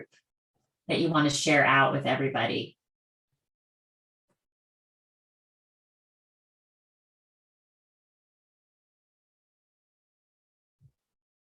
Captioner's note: silence